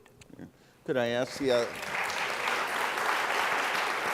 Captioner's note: applause